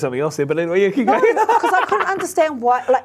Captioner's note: laughs